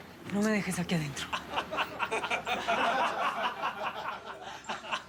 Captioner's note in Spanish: risas